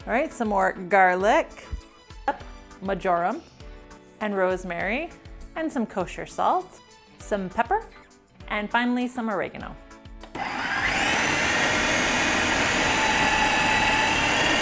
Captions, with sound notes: All right, some more garlic. Marjoram and rosemary. And some kosher salt. Some pepper. And finally, some oregano. (food processor whirling)